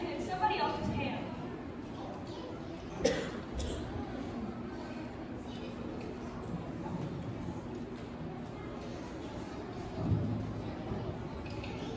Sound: general room noise

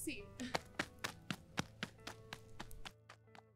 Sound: polite laugh; sound of running off

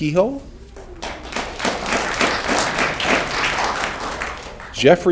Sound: audience clapping

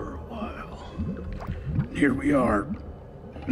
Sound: geyser bubbling

